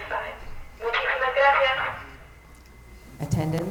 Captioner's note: intercom speaking Spanish